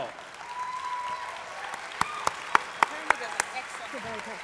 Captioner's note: applause